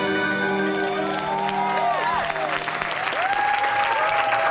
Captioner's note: cheers and applause